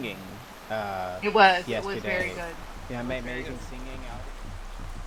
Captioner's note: stompy